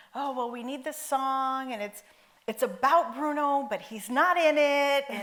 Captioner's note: none